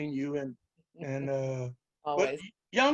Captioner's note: chuckles